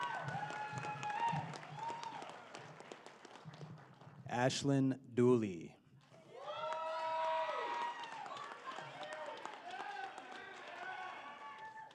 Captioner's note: applause